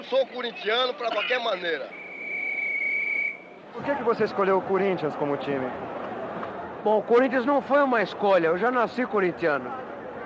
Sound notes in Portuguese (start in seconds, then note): 1.8 Apito do juiz